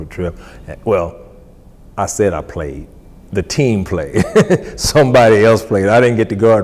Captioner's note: laughs